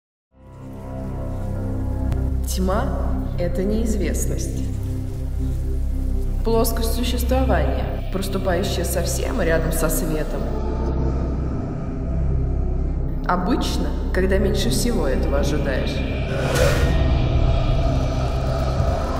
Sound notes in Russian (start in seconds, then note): 0.2 шелест листьев; 4.1 шелест листьев; 16.2 жуткий звук